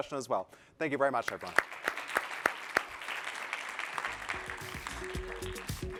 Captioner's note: applause